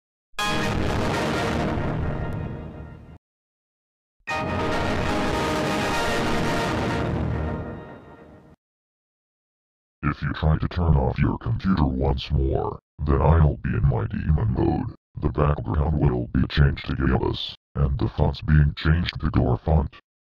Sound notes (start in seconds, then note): 0.2 Windows Server 2003.EXE Shutdown Sound; 4.3 Windows Server 2003.EXE Startup Sound